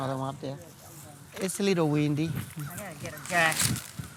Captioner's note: breeze blowing; plastic crinkling